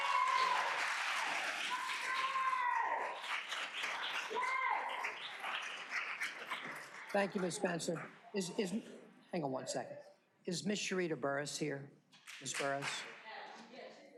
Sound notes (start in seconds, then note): 3.3 cheers and applause